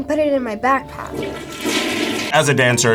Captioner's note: toilet flushing